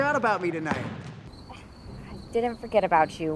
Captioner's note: insects chirping